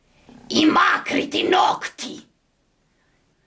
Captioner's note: alien sounds